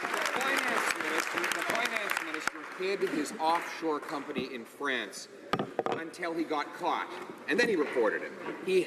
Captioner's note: some Applause